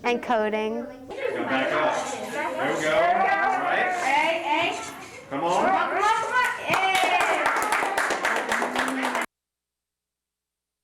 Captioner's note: classroom talking and cheering